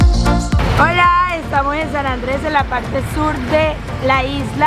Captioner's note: speaking Spanish